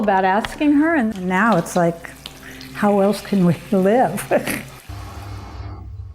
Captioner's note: laughing